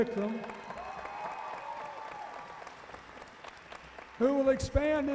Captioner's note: cheering